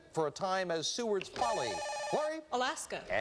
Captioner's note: buzzer